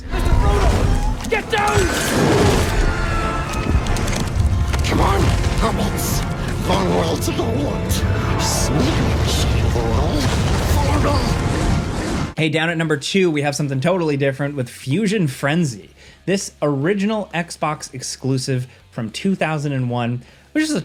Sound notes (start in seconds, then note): 2.2 dragon roaring; 2.2 dramatic orchestral music